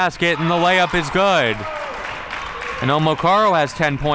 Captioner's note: crowd clapping